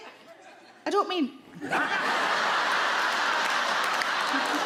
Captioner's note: audience laugh